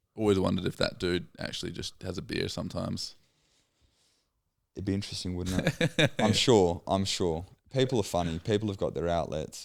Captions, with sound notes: Always wondered if that dude actually just has a beard sometimes. It'd be interesting, wouldn't it? (laughing) I'm sure, I'm sure. People are funny, people have got their outlets